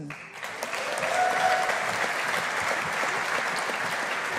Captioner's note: audience applauding